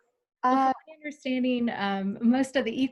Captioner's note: voice muffled